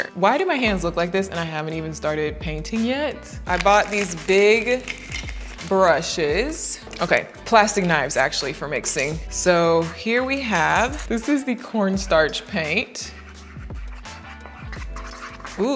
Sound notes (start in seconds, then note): 3.5 wrapper buckling; 12.0 knife and bowl rattling